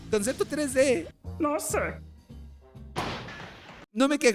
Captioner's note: small explosion sound